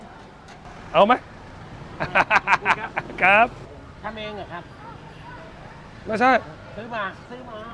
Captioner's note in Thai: เสียงหัวเราะ